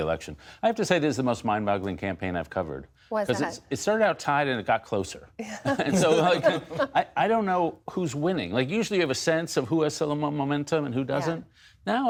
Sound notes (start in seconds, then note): 5.6 laughter